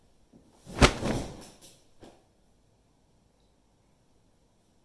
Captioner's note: duvet whooshes